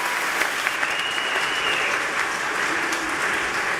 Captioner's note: whistling